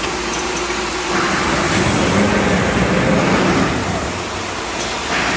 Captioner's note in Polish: dźwięk motocykla